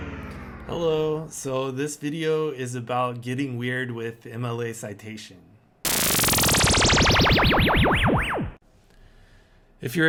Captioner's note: weird space noise